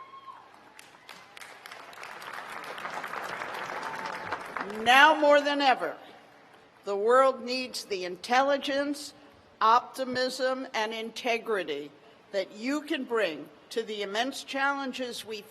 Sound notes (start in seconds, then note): 2.5 cheers and applause